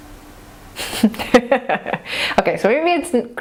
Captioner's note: laughing